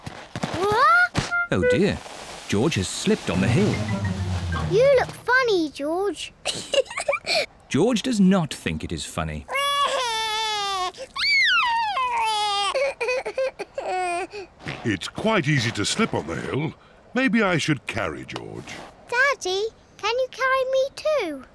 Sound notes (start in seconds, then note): 6.5 giggles; 9.5 cries